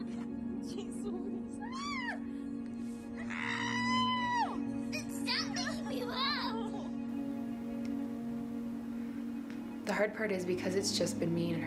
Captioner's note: laughter